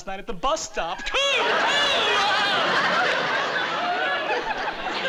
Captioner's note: laughing